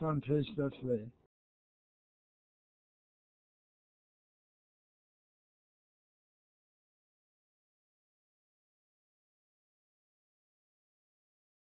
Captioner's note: muted